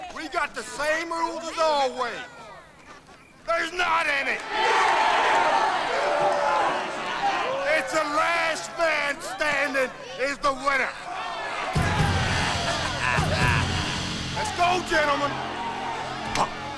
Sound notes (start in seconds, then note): 4.6 crowd cheers; 11.7 slow dramatic music